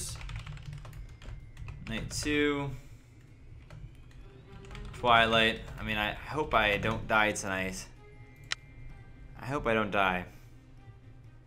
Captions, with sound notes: Night Two.. (Typing) Twilight.. I mean I hope I don't die tonight.. I hope I don't die.